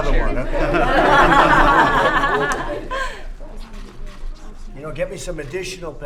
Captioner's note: laughter